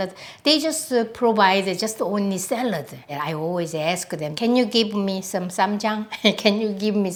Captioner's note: laughs